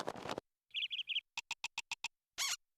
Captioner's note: chirping; squeaking